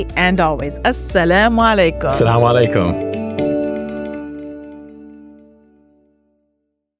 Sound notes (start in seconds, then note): 0.8 speaks a foreign language; 2.2 bright music; 2.2 speaks a foreign language